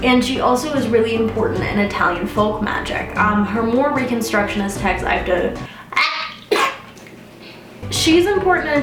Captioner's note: sneeze